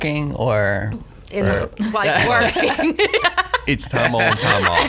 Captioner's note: laughs